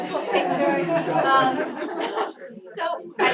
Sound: laugh

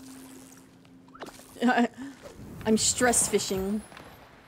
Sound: laughs

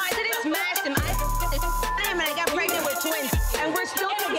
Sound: beep

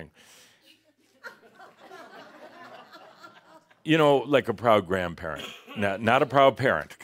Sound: more laughter

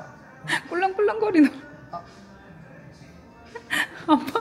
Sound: laughing

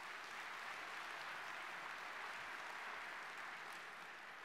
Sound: audience clapping

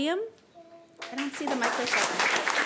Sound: applause

